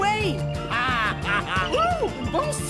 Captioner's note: ms. strich screams